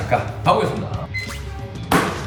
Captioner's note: beep!